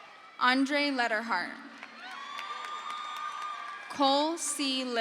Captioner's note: crowd cheers